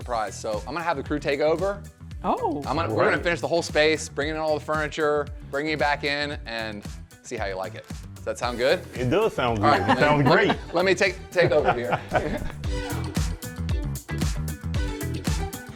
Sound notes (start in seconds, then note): 11.3 laughs; 12.6 upbeat music